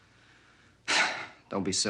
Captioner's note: sighing